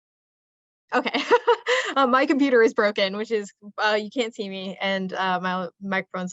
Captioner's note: laughs